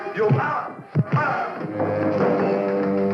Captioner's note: thump; shouting